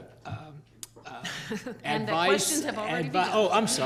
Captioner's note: chuckles